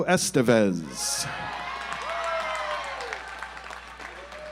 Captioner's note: audience applauds